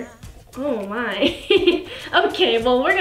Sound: laughs

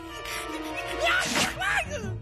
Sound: big sneeze

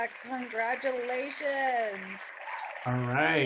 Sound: clapping hands

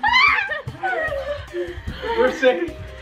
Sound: screaming

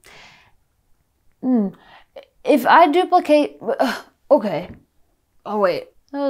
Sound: sighs

